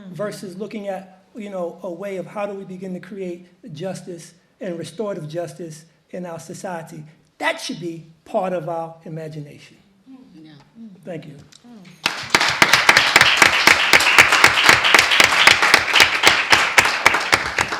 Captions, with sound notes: versus looking at a way of how do we begin to create justice and restorative justice in our society? That should be part of our imagination. Thank you. (audience applauds)